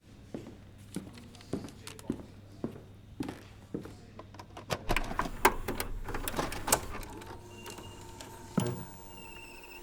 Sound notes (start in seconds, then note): 1.1 foot steps; 5.2 clicking